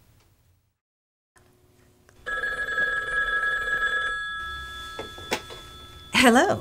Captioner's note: mouths the words. The phone rings